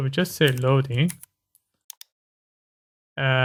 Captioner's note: typing